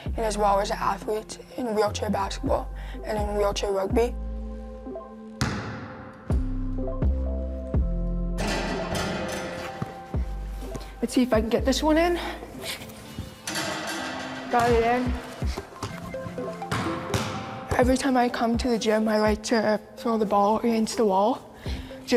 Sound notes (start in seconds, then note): 5.1 light music; 7.7 ball bouncing